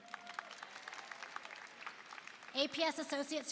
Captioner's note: applause